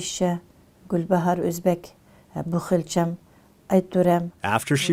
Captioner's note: speaking foreign language